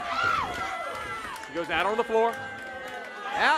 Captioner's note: crowd chatter